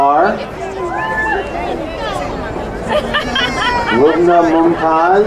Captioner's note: crowd cheering